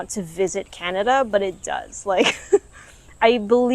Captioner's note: laughs